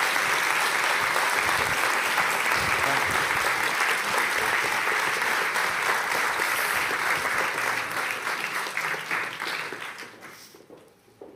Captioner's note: applause